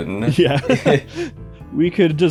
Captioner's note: chuckles